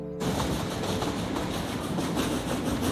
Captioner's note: engine chugging